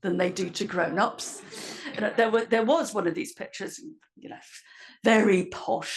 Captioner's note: laugh